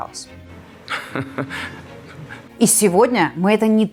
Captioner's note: giggling